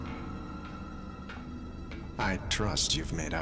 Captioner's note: clank of approaching footsteps